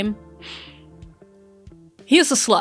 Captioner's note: inhales